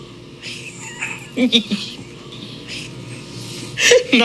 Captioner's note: laughs